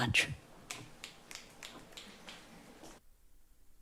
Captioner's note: snapping fingers